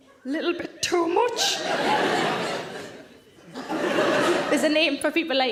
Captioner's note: audience laughing